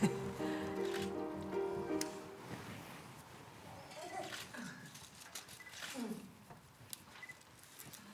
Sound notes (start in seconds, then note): 0.0 woman chuckling